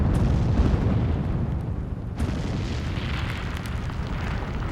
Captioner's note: explosion